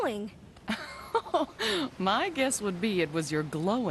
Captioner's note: laughing